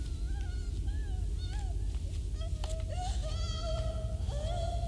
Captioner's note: girl crying